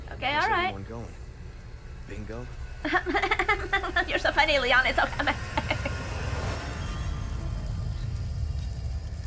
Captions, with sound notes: Okay, all right! *fake laugh* oh you're so funny, Leon, it's so funny!